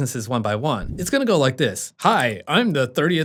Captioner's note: air whooshing